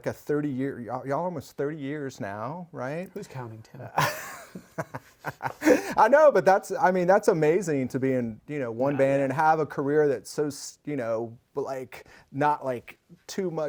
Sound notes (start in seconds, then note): 4.0 laughs